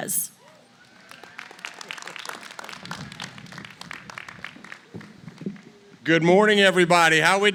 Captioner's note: applause